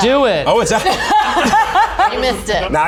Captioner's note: all laugh